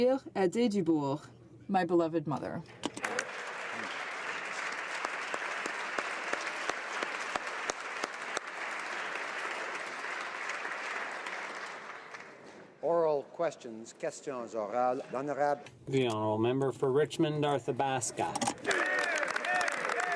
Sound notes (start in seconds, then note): 13.3 applause; 18.1 speaking French